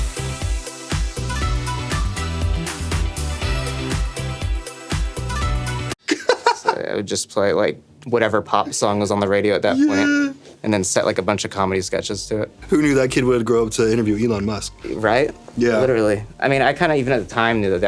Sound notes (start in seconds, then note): 0.0 lively music; 6.0 laughing